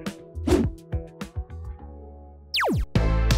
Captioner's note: screen whooshing; laser beeping; upbeat music